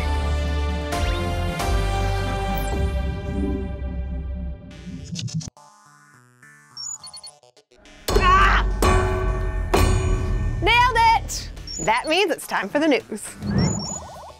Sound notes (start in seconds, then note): 0.0 exciting music; 8.2 yells; 8.7 metal reverberating